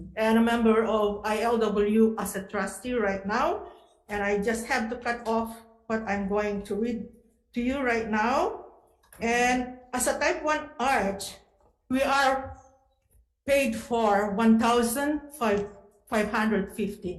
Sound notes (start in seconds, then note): none